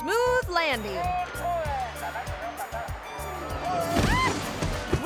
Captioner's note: people chattering; parasailor squeals